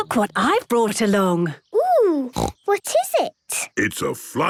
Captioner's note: snorting